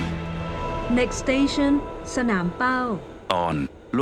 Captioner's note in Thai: เสียงประกาศบนรถไฟฟ้า